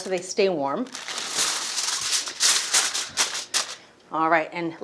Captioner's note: foil rustles